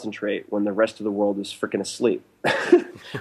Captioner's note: laughs